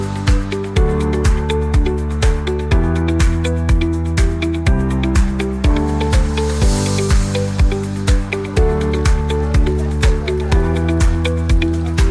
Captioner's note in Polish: Aplauz